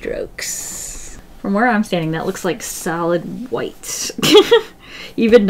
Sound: laughs

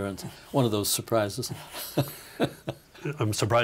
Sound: laughing

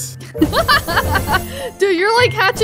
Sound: chuckles

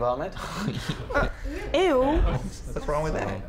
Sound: laughs

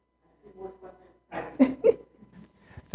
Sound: chuckles

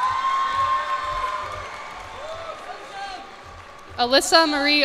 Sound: cheers and applause

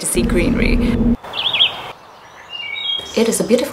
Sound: birds calling

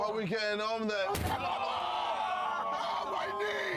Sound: groans and moans

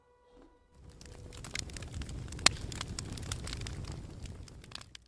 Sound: fire crackling

